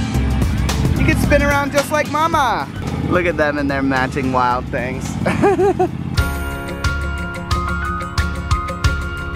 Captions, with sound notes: He can spin around just like Momma. Look at them in their matching Wild Things. (laughing) (upbeat music)